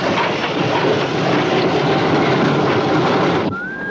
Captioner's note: man whistles tunefully